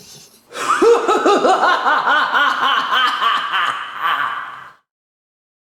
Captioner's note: evil laughter